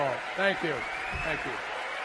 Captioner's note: applause